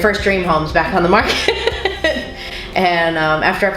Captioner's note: laughs